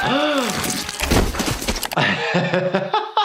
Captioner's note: gasps; Toothy yells; skull hitting pavement; laughing